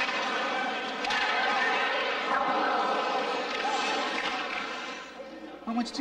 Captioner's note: shouting; ice scraping